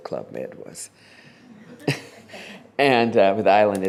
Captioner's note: laughter